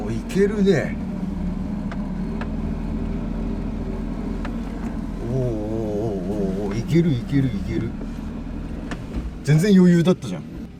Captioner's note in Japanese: エンジン音